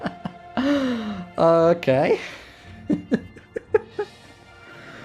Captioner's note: chuckles again; chuckling way too much there